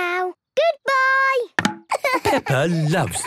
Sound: laughing

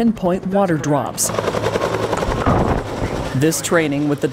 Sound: blades whirring

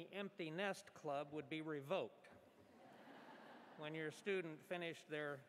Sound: laughter

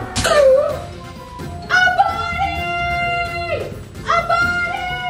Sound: gasps in shock

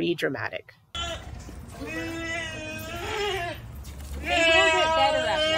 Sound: goats bleating loudly; goats bleating louder, and background talking

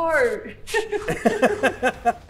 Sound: laughing

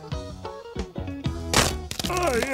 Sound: crack!

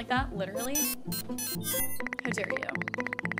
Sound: beeping

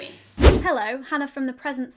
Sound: swooshing

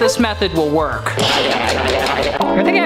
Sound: burbling

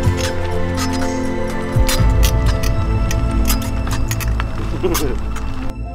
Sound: chuckle; bike squeaks

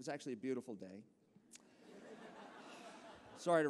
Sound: laughter

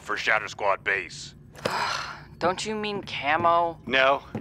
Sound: sighs

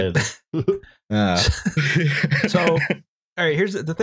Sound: laughs

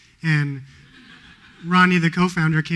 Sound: laughter

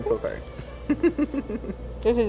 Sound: laughs

